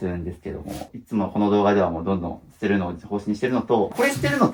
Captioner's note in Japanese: 鼻息